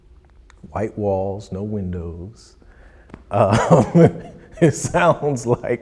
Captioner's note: laughs